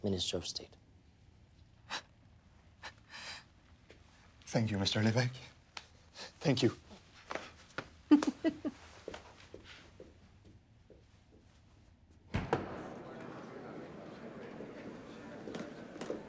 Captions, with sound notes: Minister of State. - Thank you Mr. Levesque. Thank you. (heels clanking)